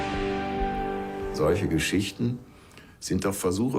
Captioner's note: music fades; in German